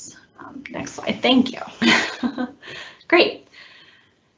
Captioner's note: laughs